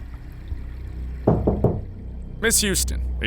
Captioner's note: door knocking